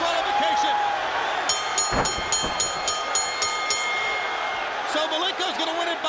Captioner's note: bell ringing